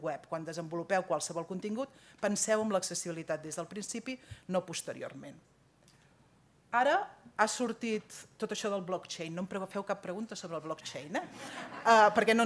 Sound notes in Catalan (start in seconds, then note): 11.4 riures